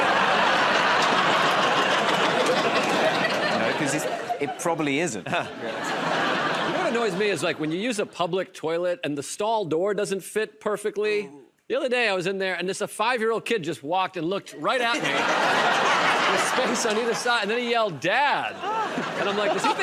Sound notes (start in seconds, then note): 0.0 laughter and applause; 5.5 laughter; 14.6 laughter